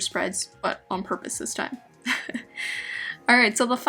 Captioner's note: laughs